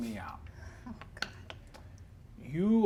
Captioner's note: whispering